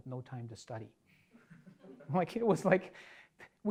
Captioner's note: audience laughing